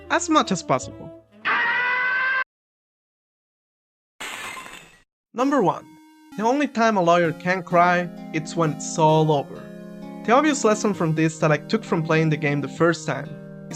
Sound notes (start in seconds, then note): 3.0 third degree burn screaming